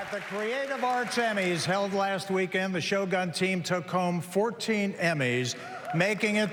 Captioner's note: applause